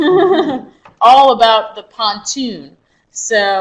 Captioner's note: chuckles